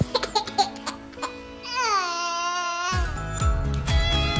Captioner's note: laughing; crying; lively music